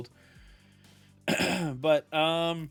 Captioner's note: clears throat